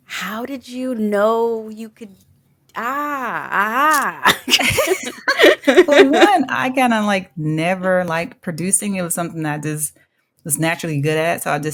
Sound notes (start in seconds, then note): 4.2 chuckle